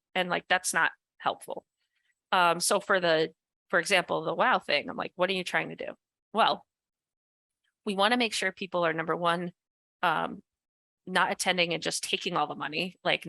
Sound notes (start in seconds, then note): none